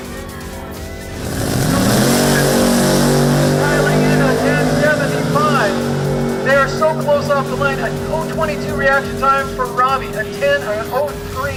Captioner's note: cars revving